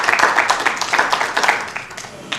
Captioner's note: applause